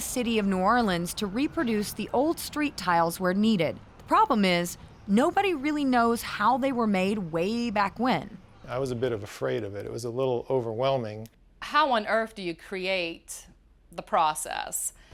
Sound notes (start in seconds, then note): none